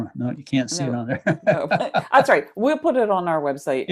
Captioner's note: laughs